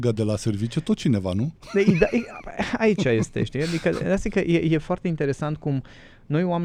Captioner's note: laughter